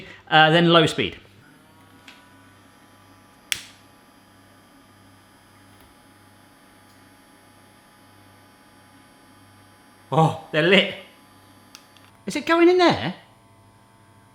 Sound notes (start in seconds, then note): 1.2 Smoking Gun buzzing; 3.4 lighter clicking